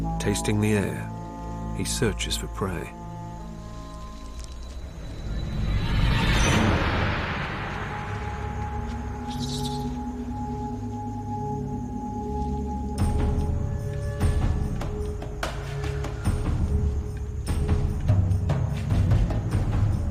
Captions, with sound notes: Tasting the air, he searches for prey. (suspenseful music) (squealing)